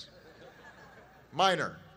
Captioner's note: laughter